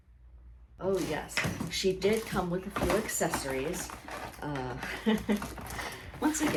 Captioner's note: laughs